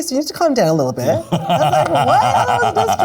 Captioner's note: laughs